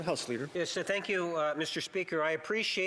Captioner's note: speaking French